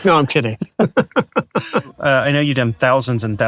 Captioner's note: both laughing